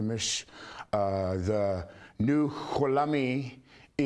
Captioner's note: speaking foreign language